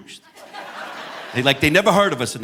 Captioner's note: audience laughing